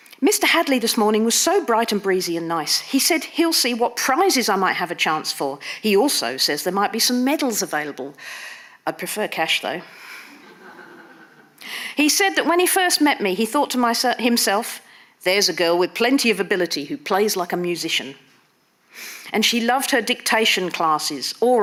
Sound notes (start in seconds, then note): 10.4 audience laughing